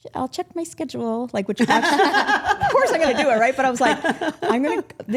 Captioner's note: group laughing